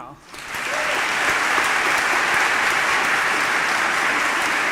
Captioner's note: audience applauding